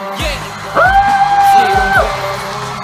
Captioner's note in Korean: 수녀님의 돌고래 발성